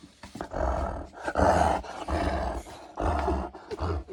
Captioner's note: dog growls